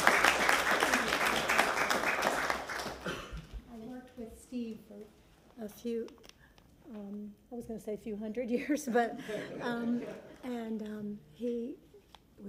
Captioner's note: applause